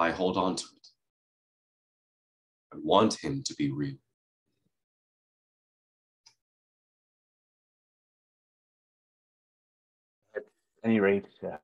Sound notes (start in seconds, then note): 5.6 A silence